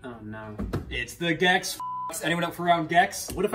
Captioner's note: beeps